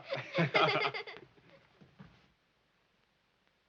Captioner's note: both laughing